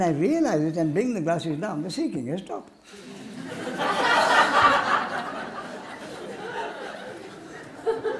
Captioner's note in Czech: smích